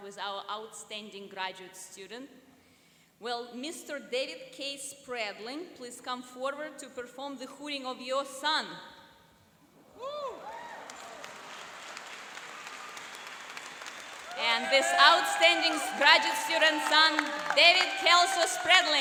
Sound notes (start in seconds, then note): 10.0 cheering and applauding